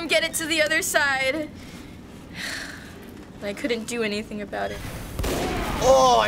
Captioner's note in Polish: wzdycha; strzał